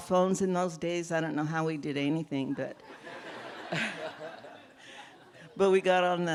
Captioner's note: laughter